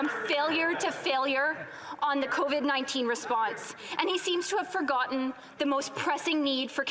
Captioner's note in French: voix de l'interprète